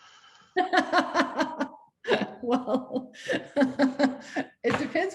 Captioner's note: laughs